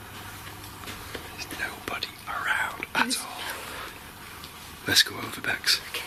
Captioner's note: whispering